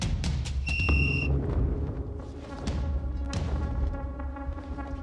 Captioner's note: whistle blows